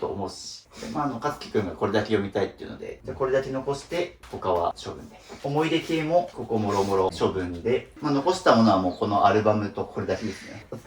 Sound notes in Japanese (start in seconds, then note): 7.4 鼻息